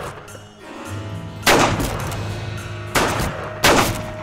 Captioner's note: gunfire